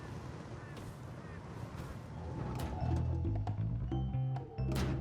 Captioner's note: sounds of tree cutting